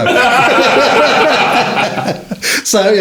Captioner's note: laughing